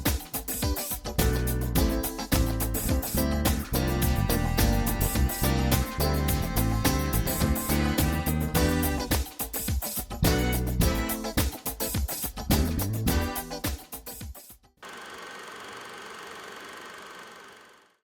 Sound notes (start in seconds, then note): 0.2 upbeat music continues; 12.4 upbeat music continues; 14.8 projector whirring